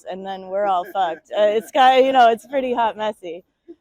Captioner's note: audience member laughs